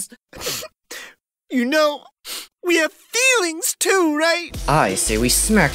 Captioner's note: sniff; sniff